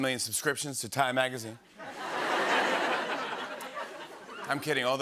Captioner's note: laughter